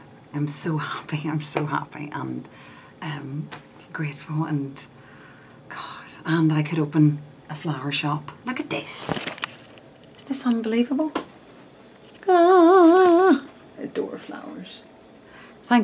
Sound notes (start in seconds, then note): none